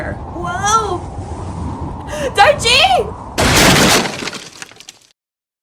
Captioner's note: wind increasing; gasp; crash